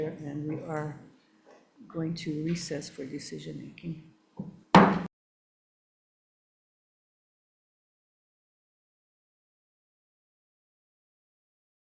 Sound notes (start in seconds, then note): 4.7 gavel thuds